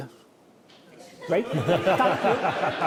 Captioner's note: audience laughing